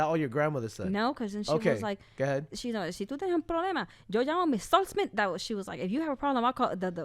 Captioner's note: speaks in Spanish